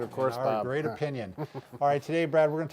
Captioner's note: laughing